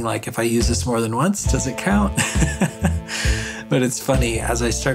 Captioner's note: chuckles